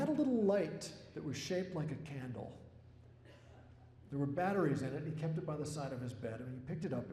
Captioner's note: laughter